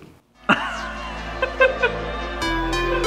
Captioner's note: laughter; electronic music